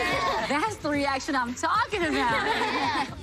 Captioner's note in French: laughter